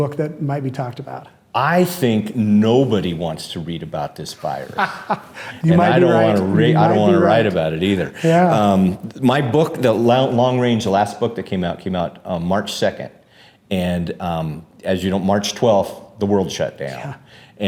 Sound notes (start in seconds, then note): 4.5 laughs